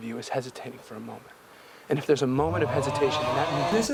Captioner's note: UGHHHHHHHHH sound effect